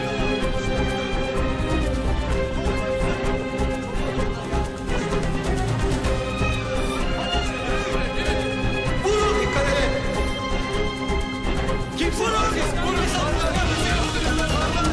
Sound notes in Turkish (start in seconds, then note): 12.0 Kargaşa sesi